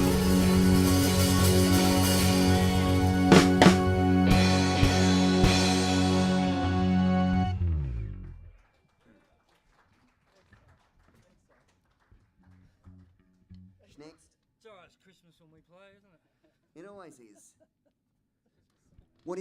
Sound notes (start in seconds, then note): 5.3 band plays; 8.2 applause